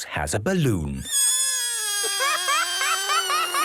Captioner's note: balloon air squealing